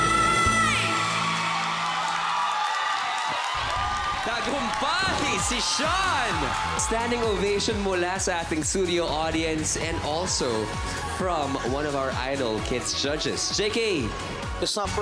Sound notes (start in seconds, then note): 1.4 cheering, applause